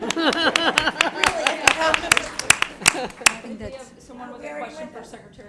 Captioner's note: laughter and applause